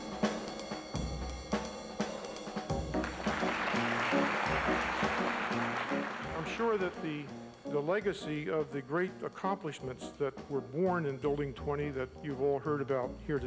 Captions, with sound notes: [APPLAUSE] - I'm sure that the legacy of the great accomplishments that were born in Building 20 that you've all heard about here